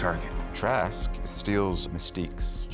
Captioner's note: none